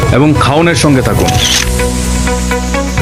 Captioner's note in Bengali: ফটো ক্লিক সাউন্ড এফেক্ট